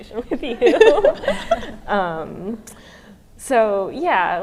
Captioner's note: all laugh